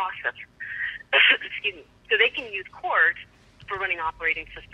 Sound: coughs

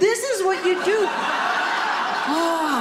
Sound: audience laughing

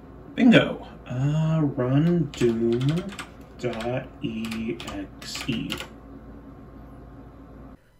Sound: keyboard Clicking

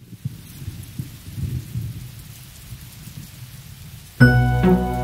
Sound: rain splashing; thunder rumbling; tranquil orchestral music

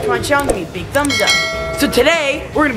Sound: bell ringing

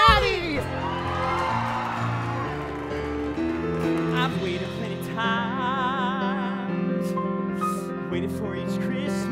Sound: applause

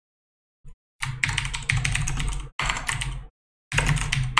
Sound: keyboard clicking

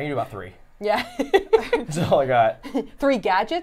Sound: laughs

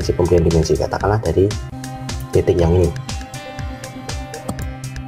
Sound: click

